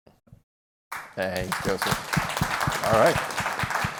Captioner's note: applause